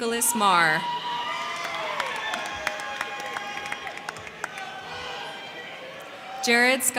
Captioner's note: crowd cheering; crowd clapping